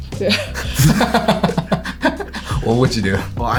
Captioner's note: laughs